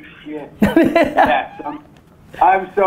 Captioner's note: Gary laughs